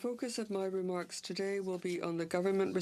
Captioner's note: speaking French